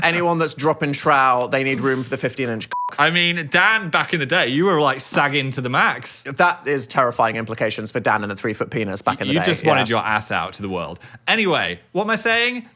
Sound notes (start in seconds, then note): 2.7 beep